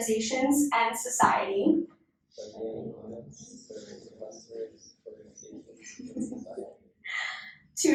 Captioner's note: inductees repeat